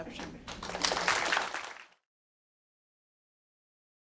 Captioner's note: applause